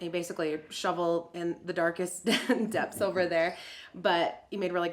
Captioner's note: laughs